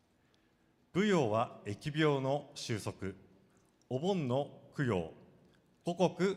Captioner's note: speaking foreign language